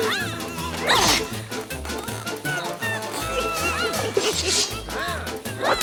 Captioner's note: gasping